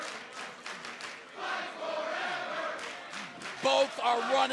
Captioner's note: fans chanting